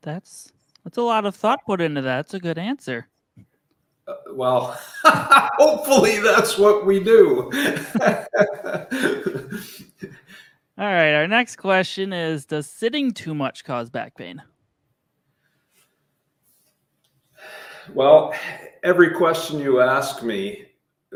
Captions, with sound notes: - That's a lot of thought put into that. That's a good answer. - Well, (laughing) hopefully that's what we do. (both laughing) - All right, our next question is, does sitting too much cause back pain? - Well, every question you ask me,